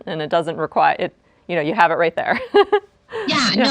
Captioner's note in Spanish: risas